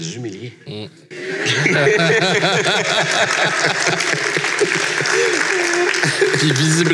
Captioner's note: laughs and applause